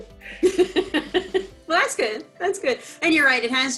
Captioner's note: laughs